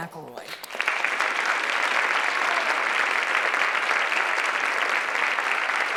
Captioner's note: applause